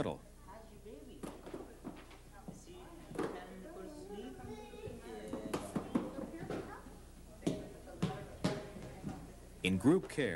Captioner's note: people talking